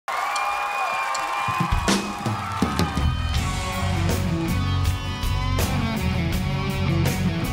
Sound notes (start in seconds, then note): 0.0 audience cheers; 1.7 upbeat rock music begins